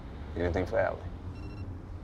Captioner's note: phone beeps